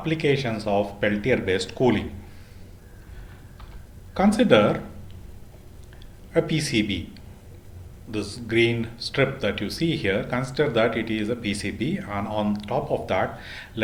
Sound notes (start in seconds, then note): 8.5 heat pumping